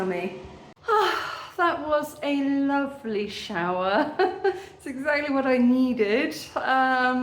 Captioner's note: sigh